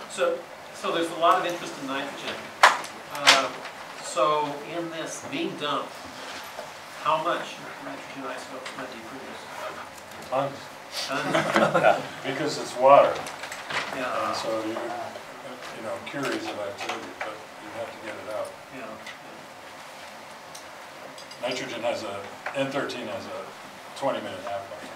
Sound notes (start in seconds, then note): 0.0 voiceover; 10.4 voiceover; 11.1 laughter; 12.6 voiceover; 19.0 voiceover; 21.6 voiceover